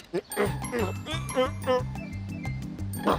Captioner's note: straining